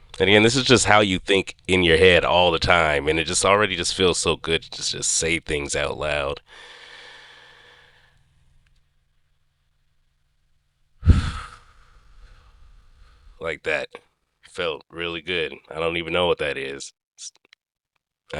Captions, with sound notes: And again this is just how you think, in your head, all the time... And it just... It already just feels so good to just say things out loud. (Deep Inhale) (Deep Exhale) Like that. It felt really good. I don't even know what that is.